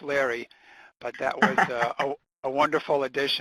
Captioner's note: laughs